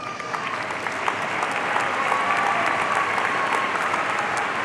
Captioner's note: audience applauding